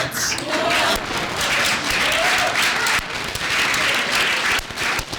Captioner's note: applause